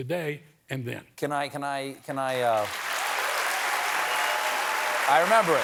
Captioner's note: cheers and applause